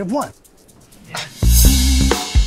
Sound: scoffs

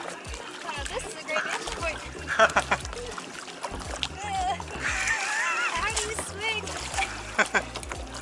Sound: laughter; laughter

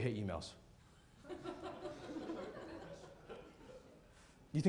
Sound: laughter

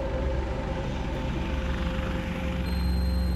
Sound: vehicle sounds

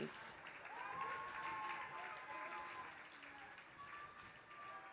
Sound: applause

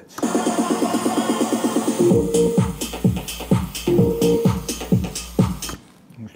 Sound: atmospheric sounds

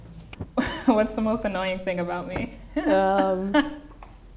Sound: chuckling

